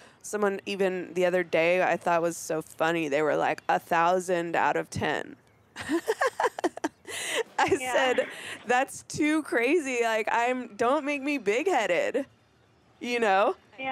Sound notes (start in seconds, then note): 5.8 laughing